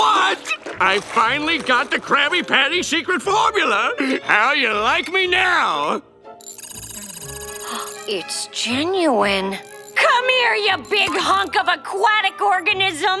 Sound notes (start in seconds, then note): 6.4 beeping